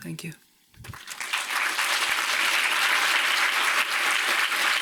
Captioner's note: audience clapping